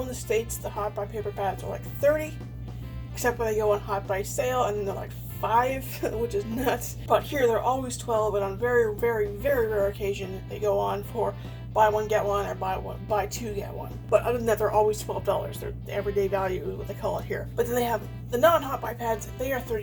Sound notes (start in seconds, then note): 6.4 laughs